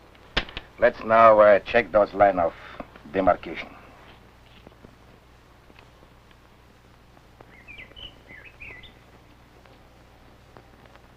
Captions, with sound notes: Let's now check those lines of demarcation. [birds chirping]